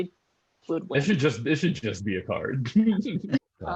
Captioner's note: laughs